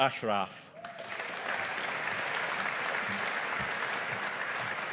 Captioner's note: audience applauding